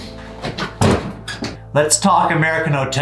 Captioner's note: thuds